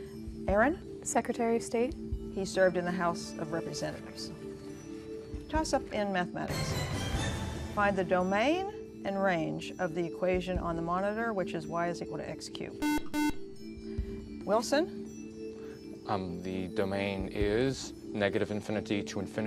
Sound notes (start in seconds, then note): 12.8 beep